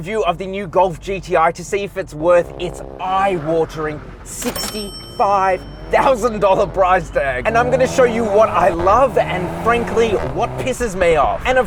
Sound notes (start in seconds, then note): 4.3 bell rings